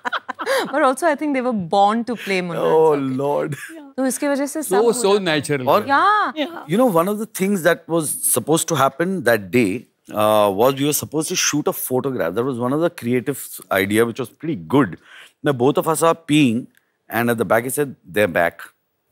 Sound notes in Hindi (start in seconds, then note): 2.2 अरशद हँसते हुए